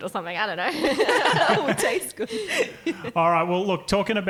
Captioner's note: laughing